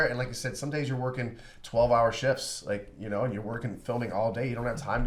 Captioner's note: none